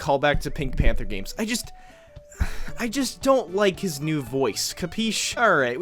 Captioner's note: sigh